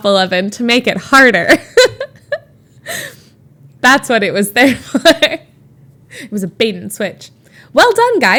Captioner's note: Emma laughs